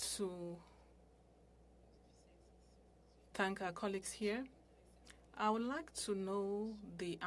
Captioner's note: speaking french